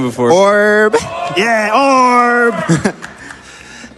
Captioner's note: crowd